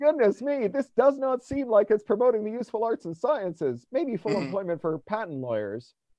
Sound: speaker far from mic

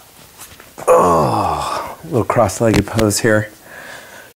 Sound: groan

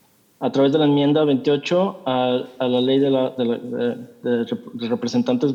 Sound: translator speaking in Spanish

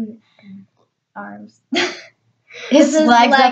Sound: laughing

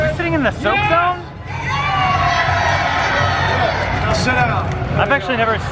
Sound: audience cheering

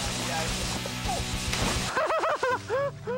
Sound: splashing; laughing

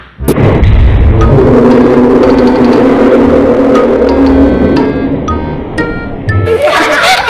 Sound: slow-mo screaming; laughing

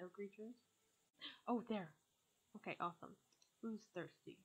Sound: gasp

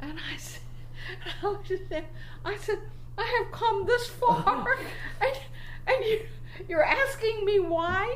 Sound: sputtering

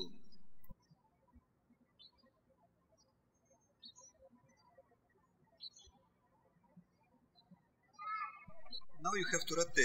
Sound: birds chirping

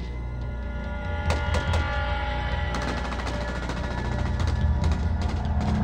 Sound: rapid gunfire

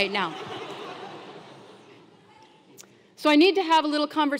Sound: laugh

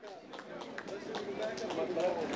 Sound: PEOPLE CHATTERlNG

